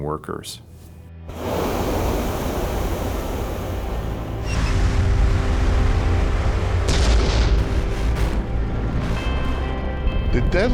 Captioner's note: sound of explosion